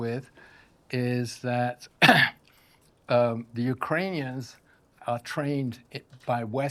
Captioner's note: coughs